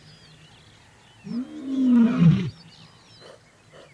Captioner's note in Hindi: दहाड़